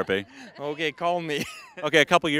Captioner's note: laughing